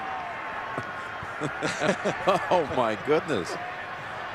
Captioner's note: laughter